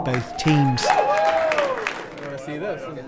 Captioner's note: audience applauding